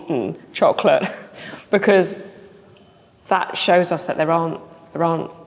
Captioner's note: chuckles